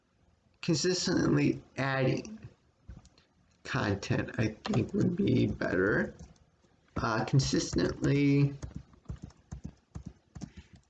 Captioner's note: tapping of computer's keyboard